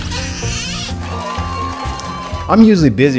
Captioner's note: reel hissing; crowd cheering